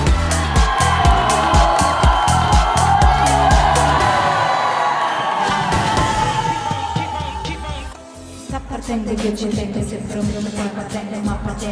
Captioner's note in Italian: Applauso